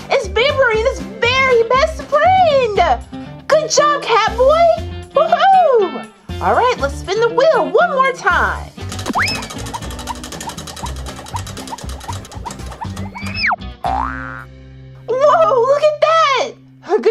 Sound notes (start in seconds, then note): 8.9 spinning, clacking; 14.0 spring boings